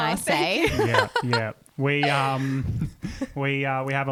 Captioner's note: laughs